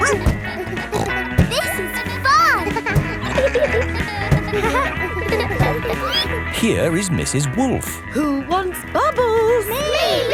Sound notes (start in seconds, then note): 0.0 snorts; 0.2 barks